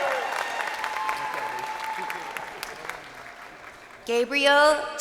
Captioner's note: crowd cheering